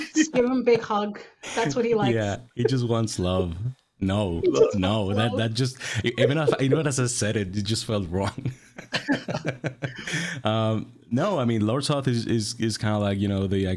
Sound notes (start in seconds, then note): 8.7 everyone laughing